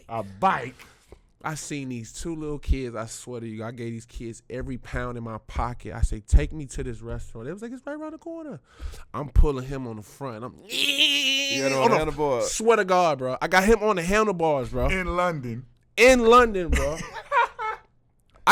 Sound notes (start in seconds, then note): 11.3 yelling; 16.7 laughing